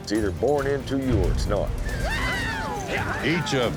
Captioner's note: cowboys shouting